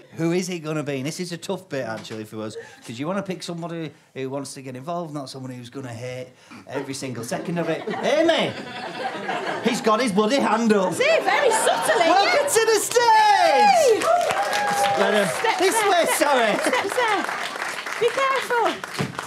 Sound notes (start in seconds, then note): 10.9 audience laughter; 12.9 applause